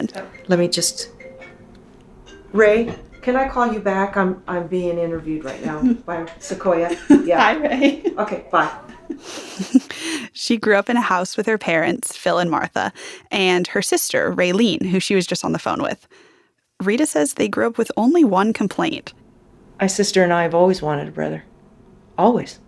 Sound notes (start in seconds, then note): 0.0 soundbite of phone ringing; 6.4 laughter